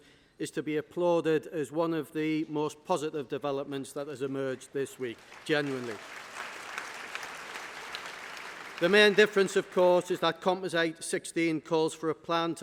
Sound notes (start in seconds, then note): 4.9 applause